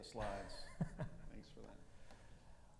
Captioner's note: laughing